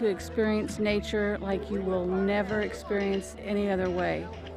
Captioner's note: cheers and Applause